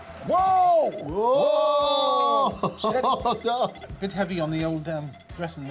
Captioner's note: laughs